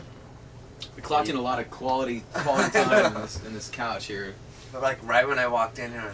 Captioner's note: laughs